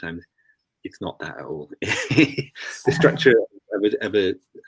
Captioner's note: laughs